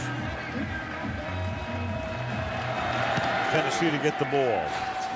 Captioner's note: pa announcement